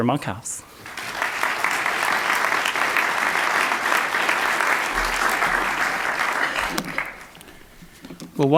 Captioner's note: audience Clapping